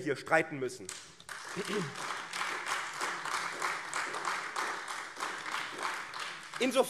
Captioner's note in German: Beifall AfD